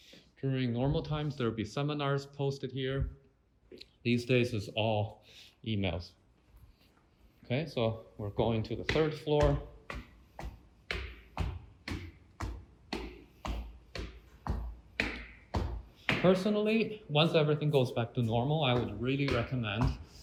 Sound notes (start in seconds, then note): 9.6 footsteps